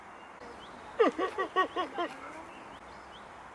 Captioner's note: excited grunting